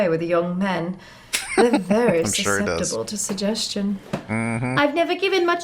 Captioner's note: laughing